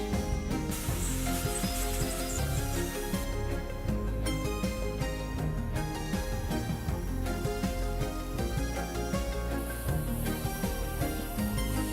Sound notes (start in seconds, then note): 1.2 water splashing; 7.3 sparks buzzing; 8.3 gentle music continues